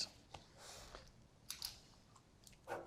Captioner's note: pen clicks